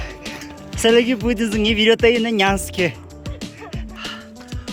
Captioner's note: hehehe